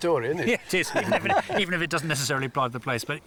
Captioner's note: laughing